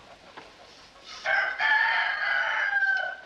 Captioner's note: rooster Crows